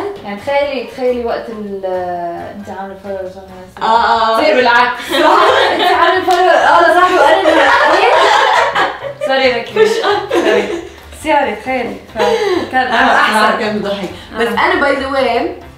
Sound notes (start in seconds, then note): 7.5 both laugh